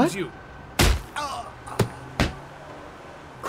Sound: hit noises, ernie groans

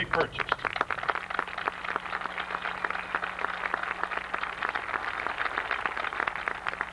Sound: applause

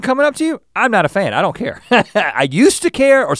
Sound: chuckles

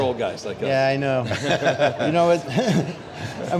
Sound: laughing

